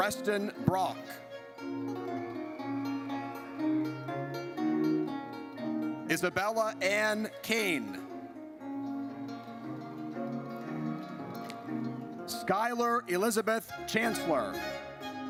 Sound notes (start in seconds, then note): 1.9 audience cheers; 9.0 audience cheers